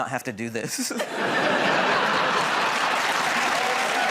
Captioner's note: laughter